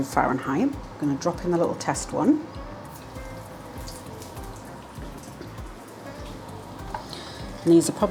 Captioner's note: sizzle